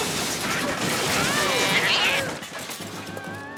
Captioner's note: loud crashing